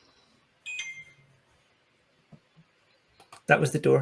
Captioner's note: someone's phone alert sounds